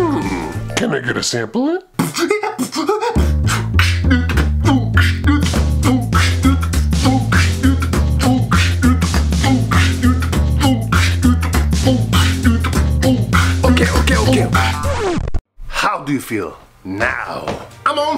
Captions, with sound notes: Hmmmm...Can I get a samplin? (beatboxing) Ok ok ok How do you feel now?